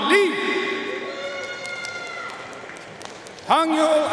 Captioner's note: audience cheering and applauding